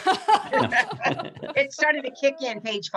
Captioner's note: laughs